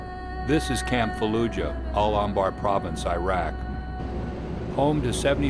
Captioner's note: voiceover